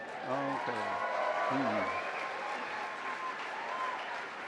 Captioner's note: cheers and applause